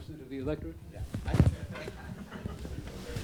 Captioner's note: audience chuckling